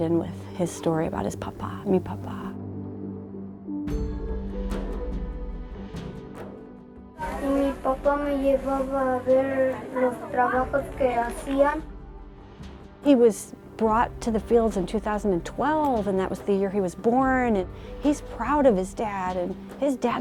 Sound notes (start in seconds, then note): 8.5 boy speaking in Spanish